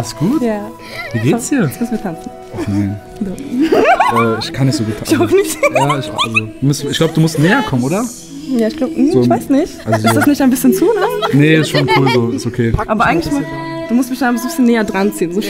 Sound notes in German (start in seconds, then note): 3.5 Lachen